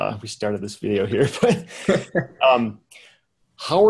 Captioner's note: men laughing